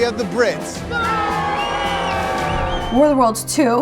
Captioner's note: all cheering and booing